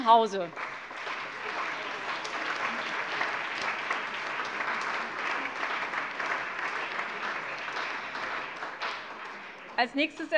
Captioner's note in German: Beifall CDU, BÜNDNIS 90/DIE GRÜNEN, SPD, AfD und vereinzelt DIE LINKE